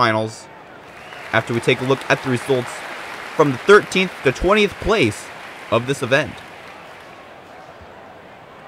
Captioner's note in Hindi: तालियाँ